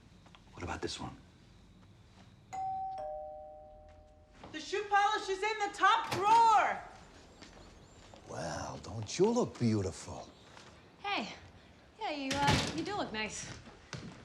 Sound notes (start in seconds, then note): 2.5 doorbell